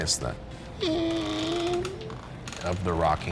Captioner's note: rocking chair creaking